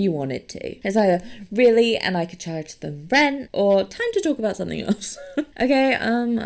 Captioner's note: laughs